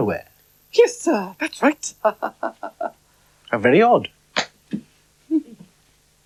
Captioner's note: laughs Nervously